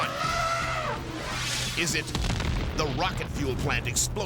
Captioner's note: elephant trumpeting; plant exploding